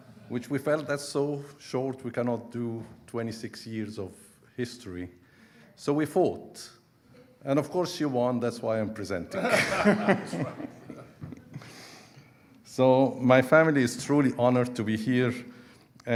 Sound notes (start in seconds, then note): 9.3 audience laughing; 9.4 laughing